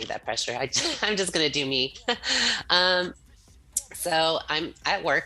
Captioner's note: laughs